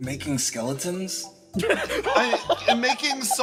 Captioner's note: laughs